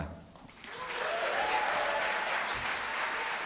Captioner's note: applause, cheering